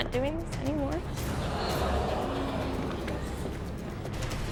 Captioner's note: crowd gasping